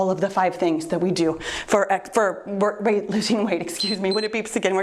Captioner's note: timer beeps